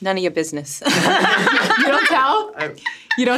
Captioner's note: everyone laughs